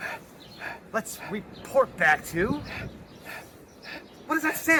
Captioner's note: heavy breathing